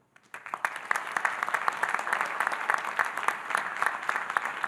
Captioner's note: audience applauding